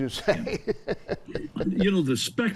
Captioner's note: chuckling